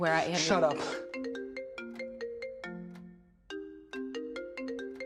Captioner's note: phone continues chiming